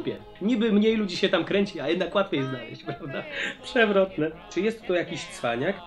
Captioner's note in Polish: śmiech